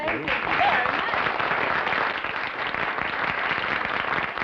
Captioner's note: applause